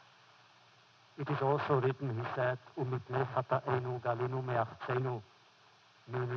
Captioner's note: foreign language